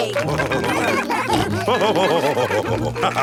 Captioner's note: all cheering; laughing